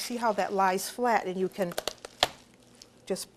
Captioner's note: chicken bones snapping